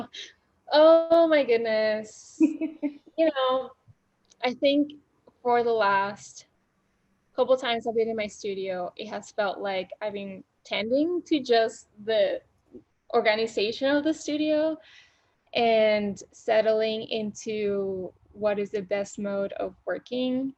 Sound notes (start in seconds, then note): 2.3 laughing